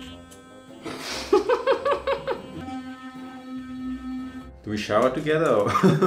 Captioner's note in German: lacht